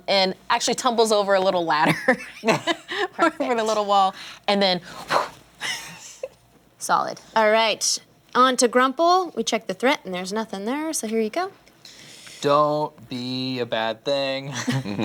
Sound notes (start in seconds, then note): 1.8 chuckles